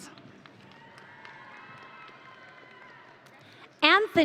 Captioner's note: audience cheering